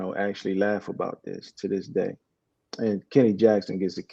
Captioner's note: laughs